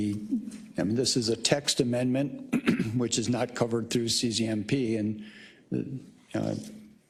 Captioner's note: cough